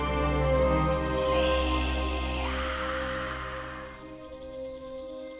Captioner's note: whisper call